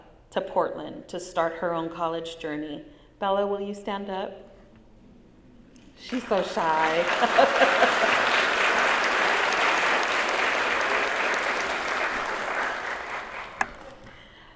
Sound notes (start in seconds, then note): 6.0 applause